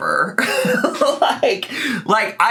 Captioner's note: laughs